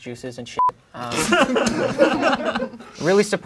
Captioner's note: crowd laughing